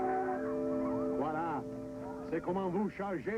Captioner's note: speaking french